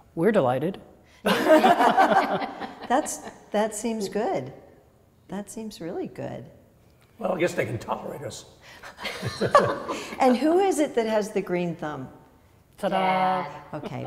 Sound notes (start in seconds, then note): 1.2 women laugh; 9.6 laughs